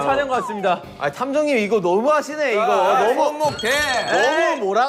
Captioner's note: frustrated